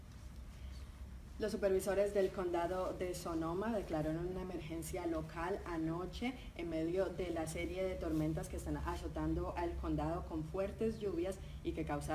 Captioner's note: speaking in Spanish